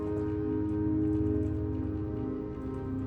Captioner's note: none